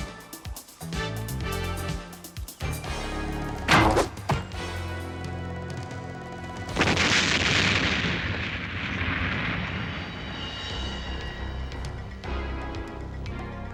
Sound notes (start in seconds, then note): 3.7 arrow whirring; 6.7 booming explosion